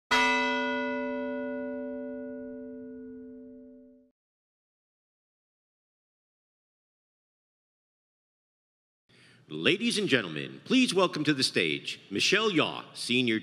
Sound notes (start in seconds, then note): 0.1 bell ringing